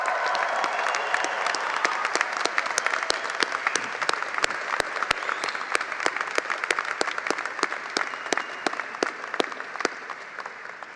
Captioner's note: applause